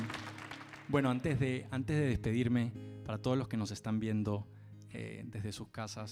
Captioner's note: speaks Spanish